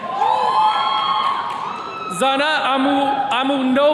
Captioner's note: attendees cheering